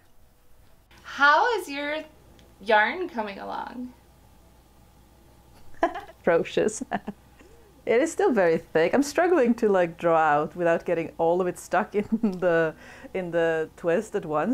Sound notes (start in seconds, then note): 5.6 laughs